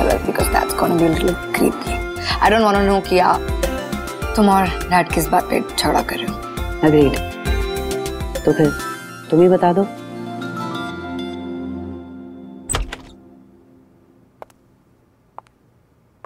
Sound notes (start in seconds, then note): 12.6 door opens